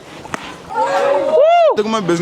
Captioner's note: cheer